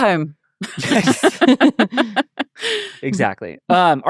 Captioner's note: everyone laughing